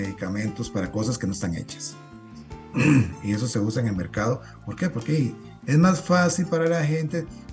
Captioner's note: clears throat